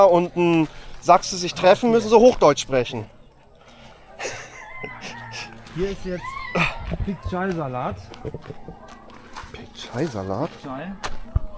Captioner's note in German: gelächter